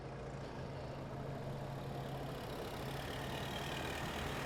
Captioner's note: car approaching